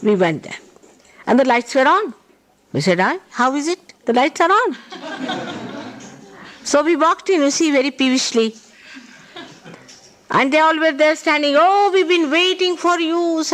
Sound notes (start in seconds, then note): 4.8 laughter